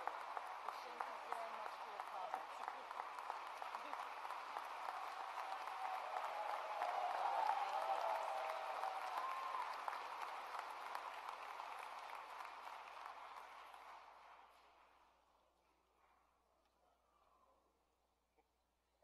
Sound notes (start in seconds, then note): 2.3 applause